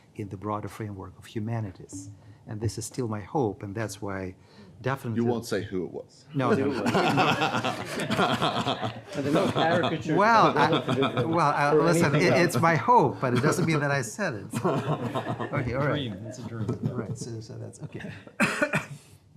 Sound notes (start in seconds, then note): 6.5 panel laughs